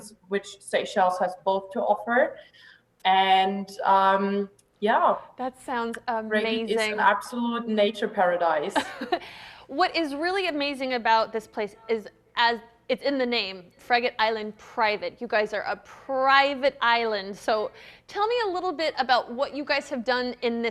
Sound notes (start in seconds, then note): 9.2 laughs